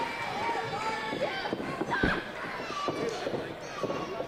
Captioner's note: crowd noise